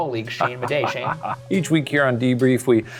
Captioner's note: Shane chuckling